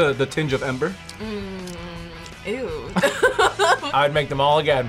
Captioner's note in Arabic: يضحك